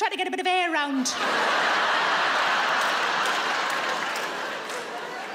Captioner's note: audience laughs